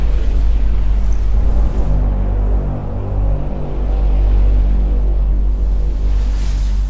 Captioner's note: dramatic orchestral music; whooshing